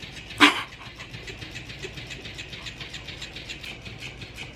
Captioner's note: laughing